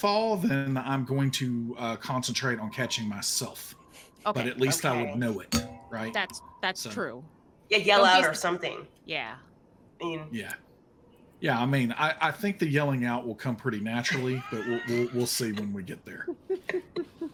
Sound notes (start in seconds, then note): 13.7 all laugh